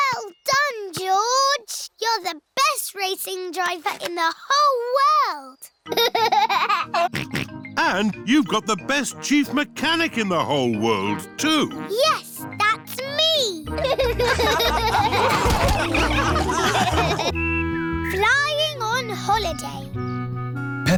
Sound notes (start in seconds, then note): 5.9 laughs and snorts; 13.7 all laughing